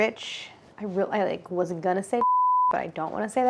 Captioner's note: beeps